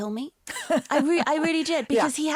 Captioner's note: interviewer laughs